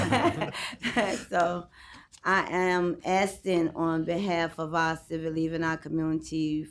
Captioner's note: laughter